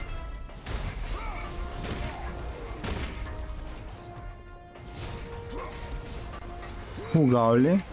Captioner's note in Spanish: grito